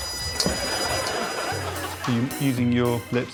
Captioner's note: smooching